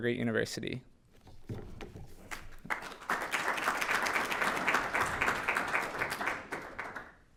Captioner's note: applause